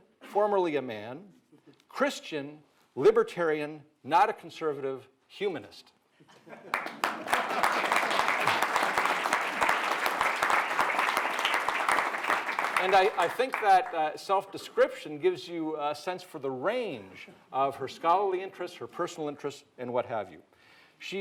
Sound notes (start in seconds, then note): 6.7 audience applauds